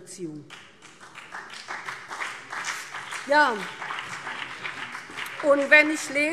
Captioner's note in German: Beifall